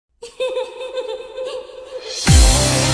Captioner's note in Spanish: Risas